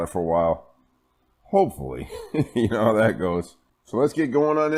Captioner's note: laughing